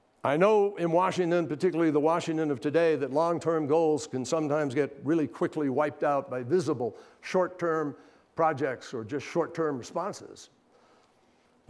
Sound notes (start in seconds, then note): none